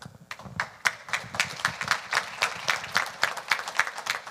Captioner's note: audience applauding